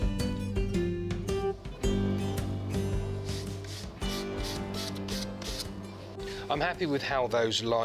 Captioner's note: fast forwarding sounds